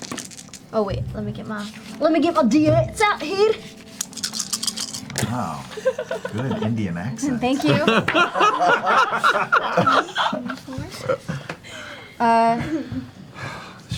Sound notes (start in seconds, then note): 2.7 Scottish accent; 7.6 all laugh